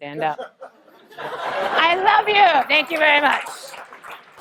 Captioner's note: laugh